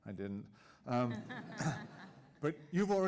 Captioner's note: audience laughing